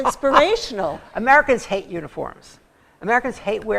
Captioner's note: laughter